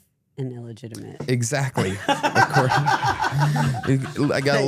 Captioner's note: laughs